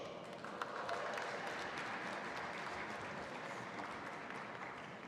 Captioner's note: audience applauding